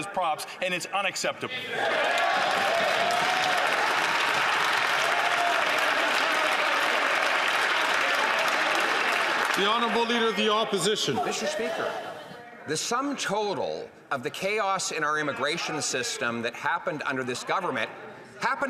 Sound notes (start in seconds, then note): 9.1 some Applause